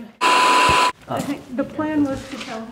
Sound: static buzzing

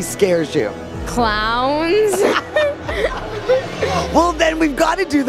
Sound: laughs

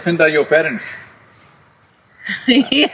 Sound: laughs

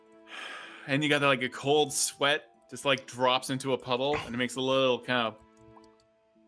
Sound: droplet sound

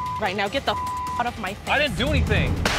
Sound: beep

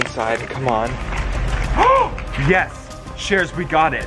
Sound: gasping

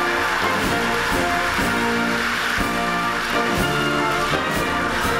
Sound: audience cheering and applauding; patriotic music

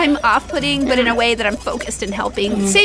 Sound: laughs

